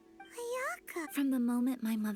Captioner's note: speaking in foreign language